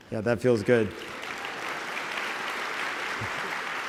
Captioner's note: applause